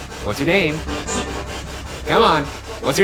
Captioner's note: spirit box chattering